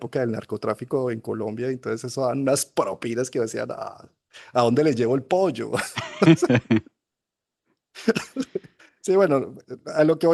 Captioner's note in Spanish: risas